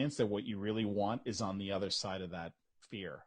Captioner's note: none